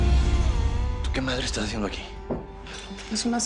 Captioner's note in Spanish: Ella murmura